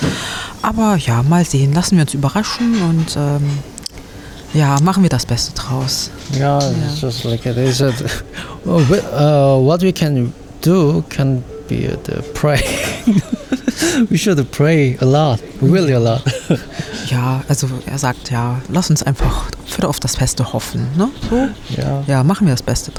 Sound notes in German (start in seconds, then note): 12.6 gelächter